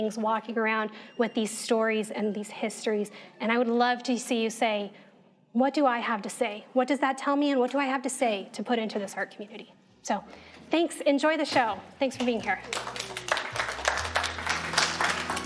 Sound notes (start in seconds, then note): 12.2 audience applauding